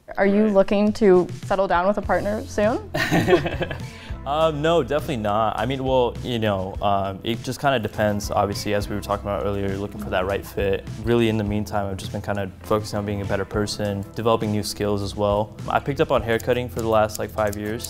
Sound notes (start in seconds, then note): 2.9 laughs